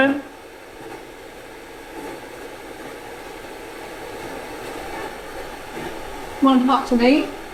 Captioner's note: static sound